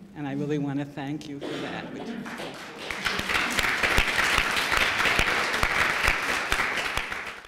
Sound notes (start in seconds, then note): 2.2 applause